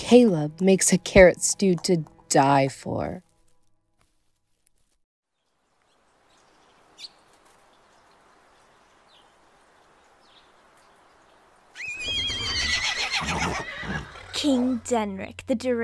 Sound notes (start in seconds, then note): 11.8 foals neighing